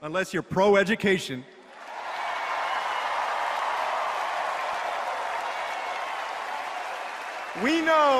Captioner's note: applause